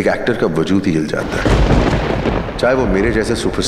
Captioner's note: Crackers bursting